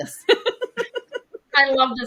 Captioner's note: laughing